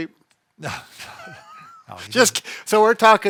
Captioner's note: both laugh